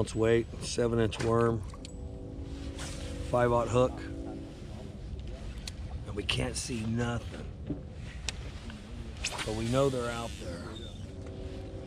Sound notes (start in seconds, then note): 7.4 rod whipping